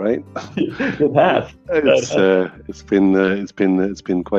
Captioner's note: both laughing